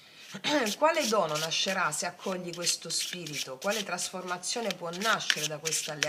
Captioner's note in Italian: schiarire la voce